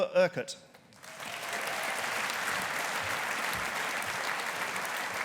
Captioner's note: audience applauding